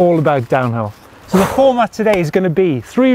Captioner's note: deep Sigh